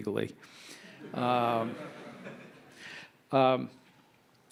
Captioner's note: audience laughing